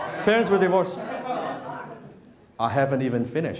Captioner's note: interrupted by crowd